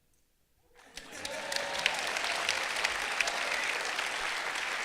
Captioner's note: clapping